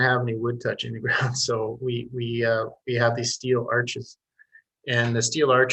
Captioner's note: chuckles